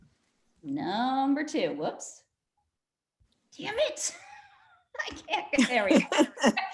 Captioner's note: lauging